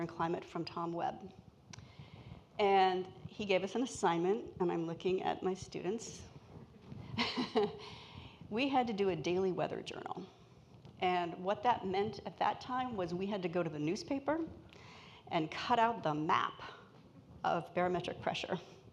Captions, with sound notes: and climate from Tom Webb, and he gave us an assignment. And I'm looking at my students. (laughs) We had to do a daily weather journal. And what that meant at that time was we had to go to the newspaper and cut out the map of barometric pressure.